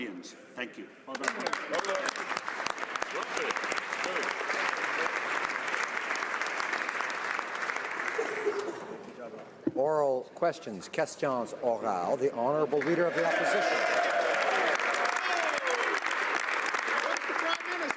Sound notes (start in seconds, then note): 4.4 applause; 13.3 speaking French